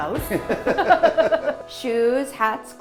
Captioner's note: both laughing